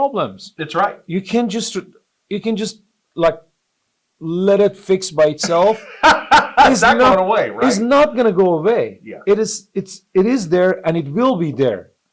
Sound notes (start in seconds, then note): 5.4 laughs